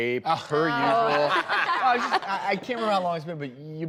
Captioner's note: laughing